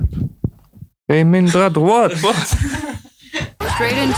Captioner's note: laughter